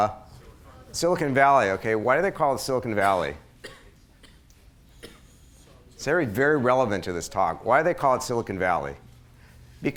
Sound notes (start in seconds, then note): 2.9 coughing